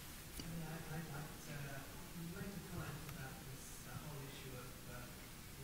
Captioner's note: man speaking off-microphone